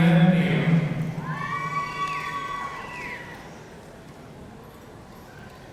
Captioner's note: audience cheering